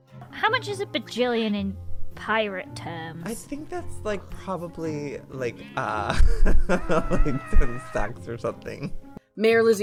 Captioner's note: laughs